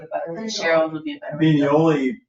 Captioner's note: people chattering